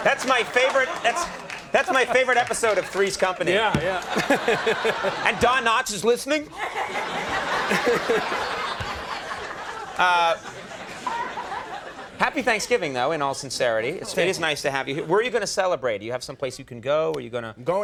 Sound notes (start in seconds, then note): 3.9 audience laughing; 6.9 audience laughing